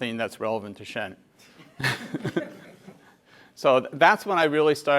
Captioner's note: laugh